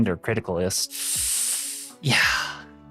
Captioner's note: inhales